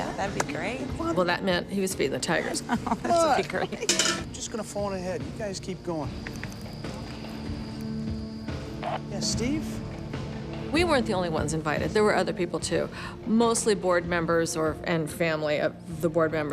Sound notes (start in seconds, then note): 2.6 laughing